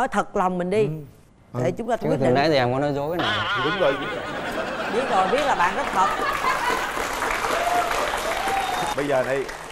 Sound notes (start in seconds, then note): 5.8 cheering